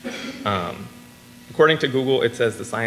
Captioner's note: audience coughs